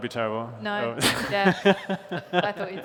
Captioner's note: laughter